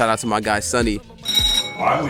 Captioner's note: bell rings